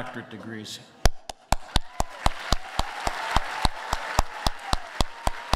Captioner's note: applause